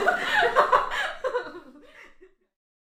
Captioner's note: background laughter